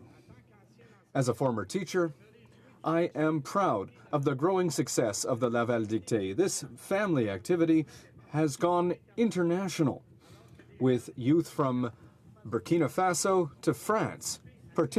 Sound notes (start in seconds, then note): 4.9 speaking French